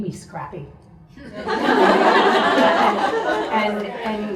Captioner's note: audience laughs